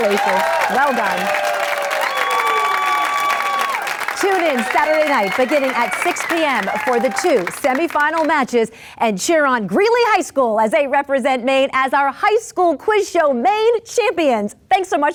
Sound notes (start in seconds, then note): 1.5 audience cheers